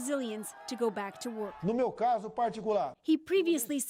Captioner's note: crowd Noise